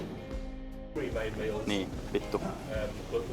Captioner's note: angry noises